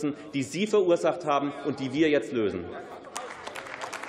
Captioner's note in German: Beifall